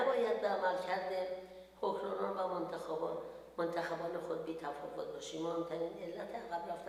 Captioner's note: speaks in foreign language